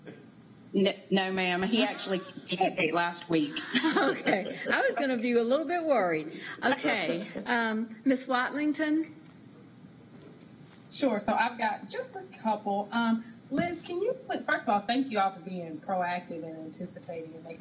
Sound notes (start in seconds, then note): 6.7 laughter